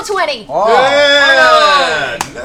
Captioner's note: cheering